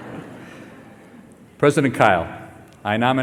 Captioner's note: laughter